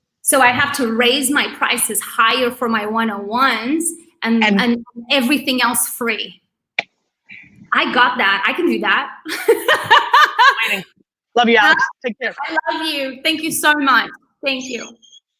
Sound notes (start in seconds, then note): 9.4 laughs